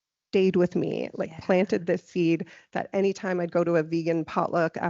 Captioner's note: none